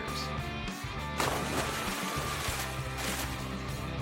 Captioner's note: water splashing